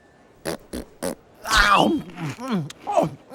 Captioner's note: eating loudly